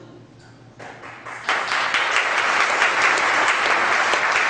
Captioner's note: audience applause